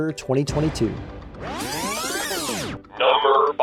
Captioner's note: tape rewinding